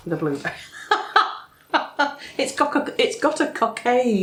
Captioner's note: laffs